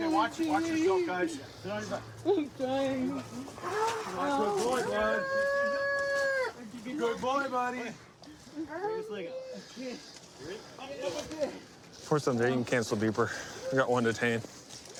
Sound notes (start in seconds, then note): 5.2 wails